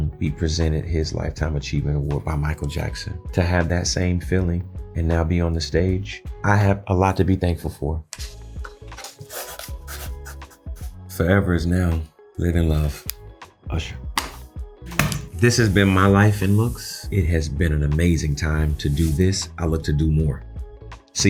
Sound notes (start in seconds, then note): 8.9 pen scribbling; 14.2 pen clacking; 14.9 book slamming